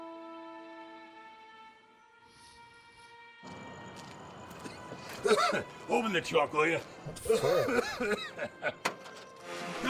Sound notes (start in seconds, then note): 3.9 crickets chirping; 7.1 coughs